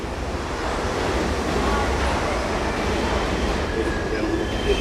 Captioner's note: train rolling on track